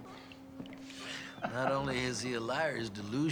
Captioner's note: chuckling